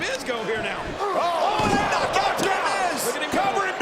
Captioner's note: body thudding